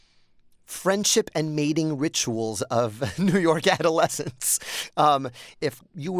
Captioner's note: laughter